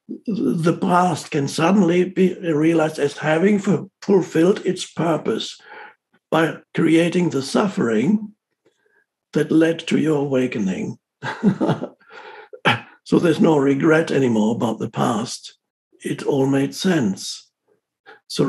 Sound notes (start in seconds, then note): 11.2 laughs